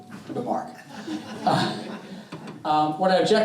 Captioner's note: all chuckling